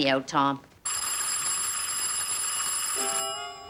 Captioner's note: doorbell rings